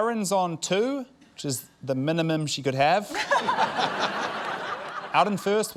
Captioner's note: laughter